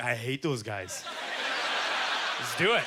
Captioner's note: audience laughter